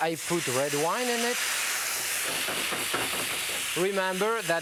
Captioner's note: wine sizzling